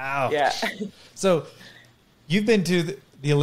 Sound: chuckles

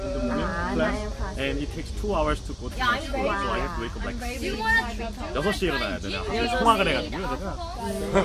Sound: and repeats it in Korean

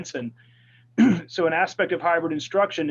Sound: clears throat

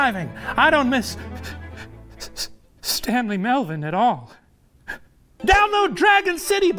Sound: sobs

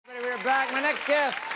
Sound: audience clapping

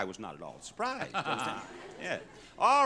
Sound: laughs

